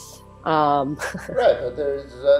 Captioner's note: chuckles